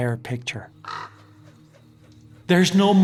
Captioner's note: bird cawing